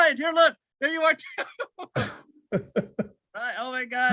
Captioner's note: all laugh